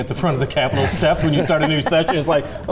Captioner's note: all laugh